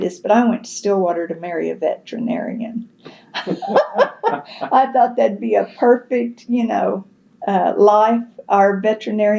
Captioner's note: laughter